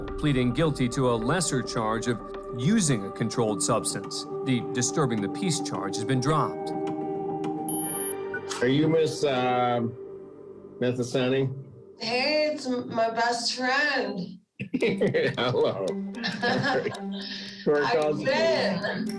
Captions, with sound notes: pleading guilty to a lesser charge of using a controlled substance. The disturbing the peace charge has been dropped. Are you Miss, um... Methasani? Hey! It's my best friend. [chuckles] Hello. [both chuckle] How've you been?